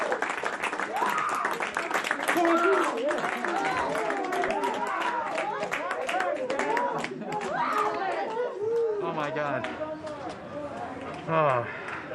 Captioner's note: applause